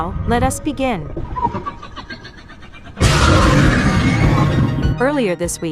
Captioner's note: demogorgon cheers